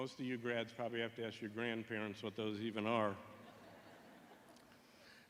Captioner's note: laughter